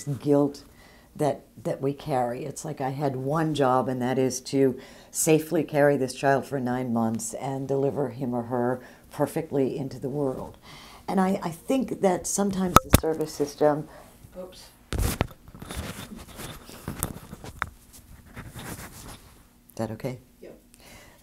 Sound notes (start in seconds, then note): 16.6 mic falls off